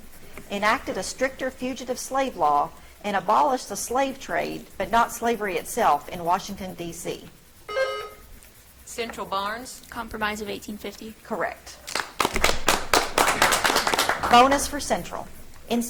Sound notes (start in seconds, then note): 7.6 buzzer trills; 11.8 audience clapping